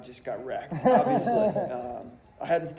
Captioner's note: laughing